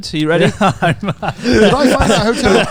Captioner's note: laughs